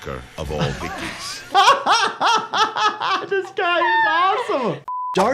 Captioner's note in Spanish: ambos riendo